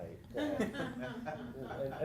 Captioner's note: laugh